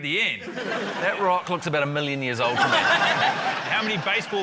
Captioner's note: laughter